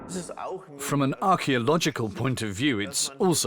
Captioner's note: in German